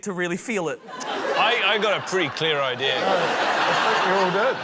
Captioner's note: laughter